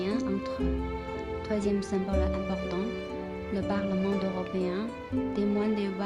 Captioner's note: French